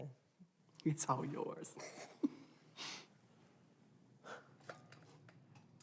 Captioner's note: Deb and Ava chuckle